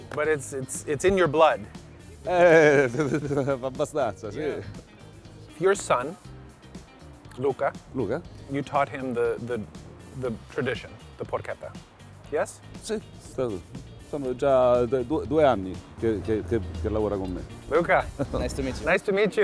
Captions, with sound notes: - But it's in your blood. - (speaking in Italian). - Your son, Luca. - Luca. - You taught him the tradition, the porchetta, yes? - (speaking in Italian). - Luca. - Nice to meet you.